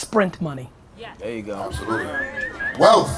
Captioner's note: audience cheering